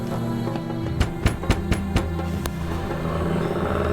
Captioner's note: rapid knocking; growling